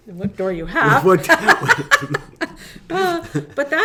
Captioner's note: laughing; laughs